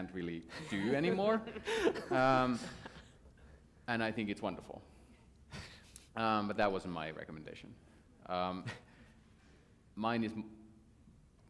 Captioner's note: laughter